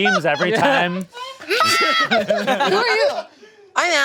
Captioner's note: group laughing